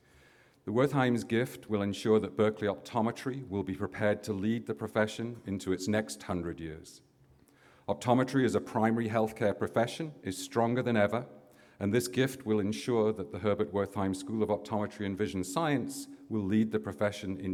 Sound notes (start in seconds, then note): none